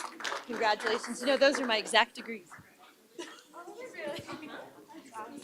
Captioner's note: applause